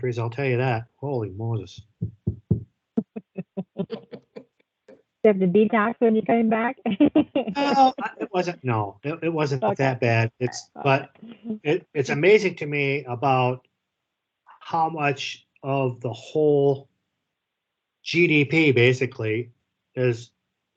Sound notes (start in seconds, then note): 3.2 all chuckle; 6.8 laughs